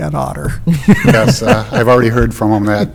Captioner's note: laughter